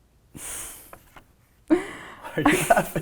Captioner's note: laughing; laughs